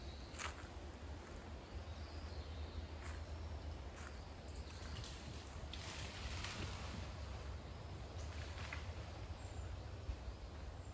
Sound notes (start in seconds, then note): 6.4 rustle rustle...something is moving through the bushes